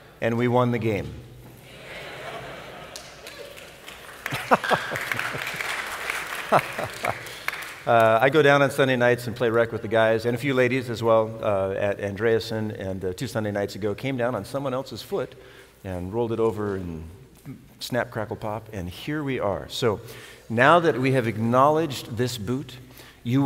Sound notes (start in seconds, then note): 1.8 laughter; 4.2 applause; 6.4 laughs